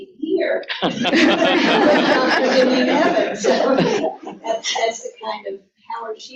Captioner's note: laughter